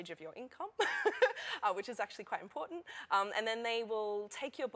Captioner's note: laughter